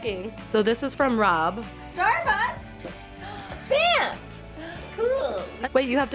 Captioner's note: gasp